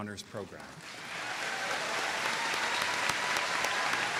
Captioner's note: applause